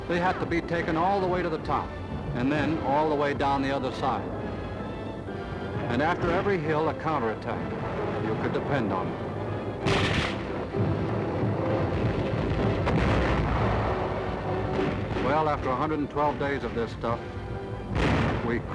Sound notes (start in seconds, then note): 9.8 guns firing; 9.9 booming